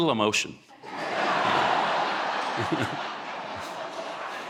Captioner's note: audience laughing